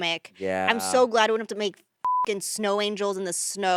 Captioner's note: beep